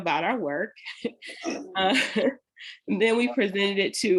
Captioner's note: laughter